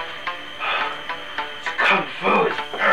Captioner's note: exhales